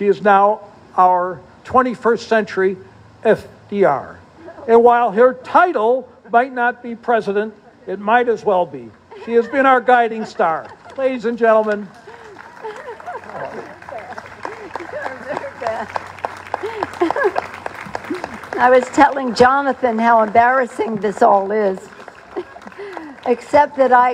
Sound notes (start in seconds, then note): 12.1 applause